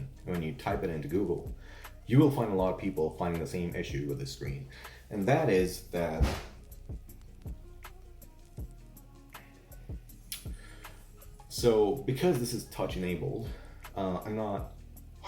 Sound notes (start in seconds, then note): 9.1 awkward pause